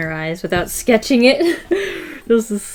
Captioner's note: laughs